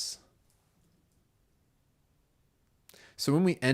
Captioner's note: silence